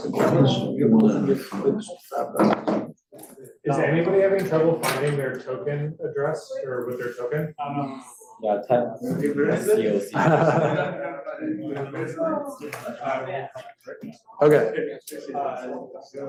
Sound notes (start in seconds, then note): 8.4 students chattering